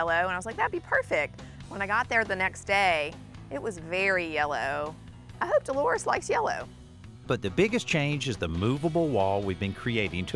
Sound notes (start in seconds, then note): none